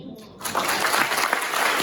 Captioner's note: applause